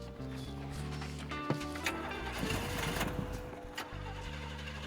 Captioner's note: engine stalling